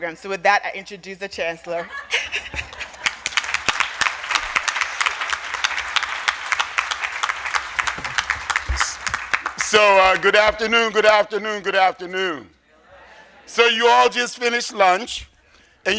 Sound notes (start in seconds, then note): 2.6 audience applauding